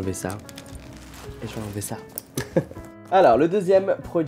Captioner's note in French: rires